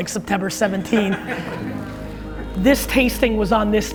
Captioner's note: audience laughs